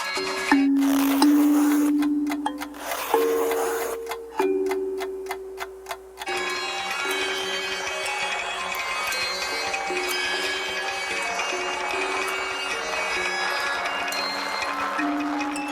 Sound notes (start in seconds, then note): 0.9 clock ticking; 2.4 legs rasping